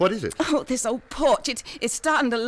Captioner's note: gasps